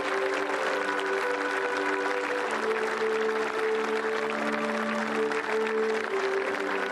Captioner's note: applause